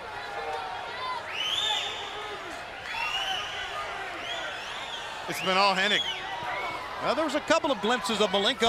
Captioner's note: crowd chatter